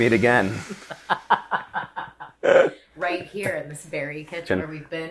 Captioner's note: laughs